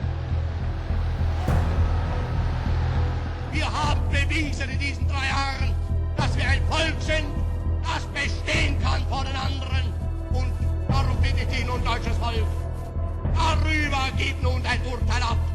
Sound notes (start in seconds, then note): 3.4 Hitler speaking German